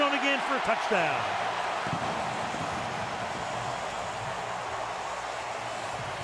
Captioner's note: cheering